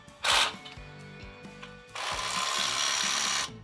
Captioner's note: drill whirring